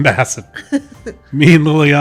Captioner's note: laughs